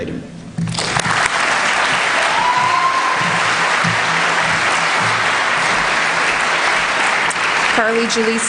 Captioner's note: applause